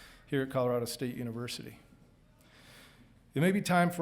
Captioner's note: none